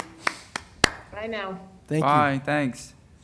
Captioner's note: applause